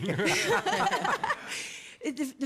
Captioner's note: laughter